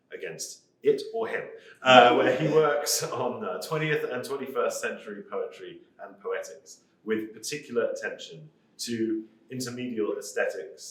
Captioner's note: laughter